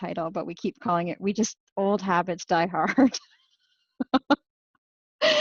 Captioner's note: laughs